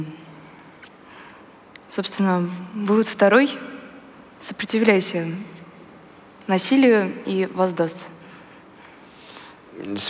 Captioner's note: foreign Language